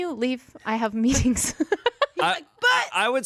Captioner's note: laughs